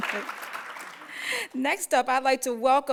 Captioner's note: applause